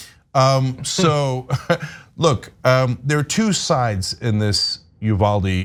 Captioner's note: laugh